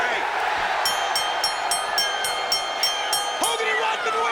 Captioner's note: audience cheers; bell rings